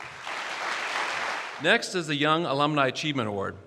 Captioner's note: applause